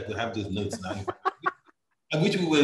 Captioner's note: laughing